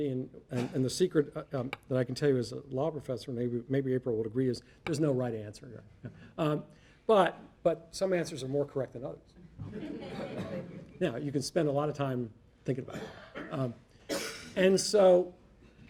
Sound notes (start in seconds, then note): 9.6 audience laughing